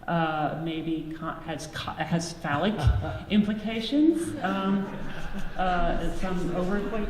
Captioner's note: audience laughs